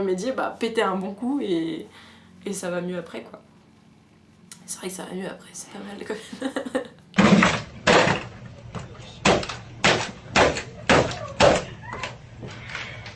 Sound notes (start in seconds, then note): 6.2 laughter